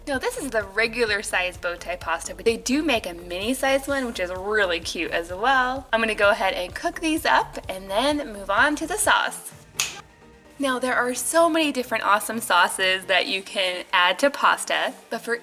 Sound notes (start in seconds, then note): 9.7 snaps